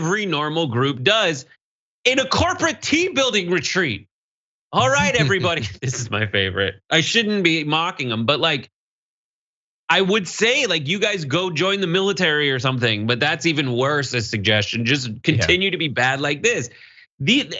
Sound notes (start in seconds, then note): 4.8 laugh